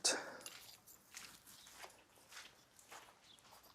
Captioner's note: footsteps in the gravel